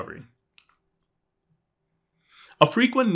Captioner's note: remote clicking